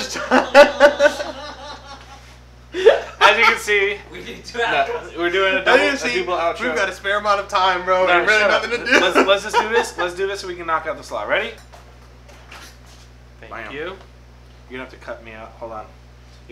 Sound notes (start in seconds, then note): 0.0 everyone laughs; 8.2 laughs